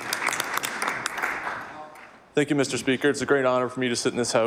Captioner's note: applause